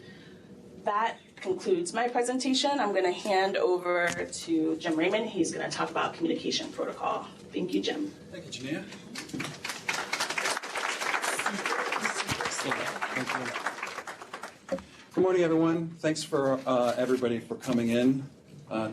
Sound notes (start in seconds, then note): 12.1 applause